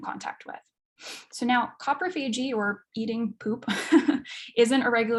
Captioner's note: chuckles